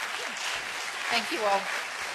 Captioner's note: applause